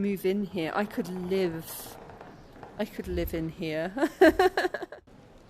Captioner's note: laughing